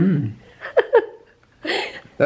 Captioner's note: giggling